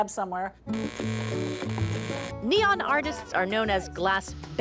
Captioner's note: electricity crackling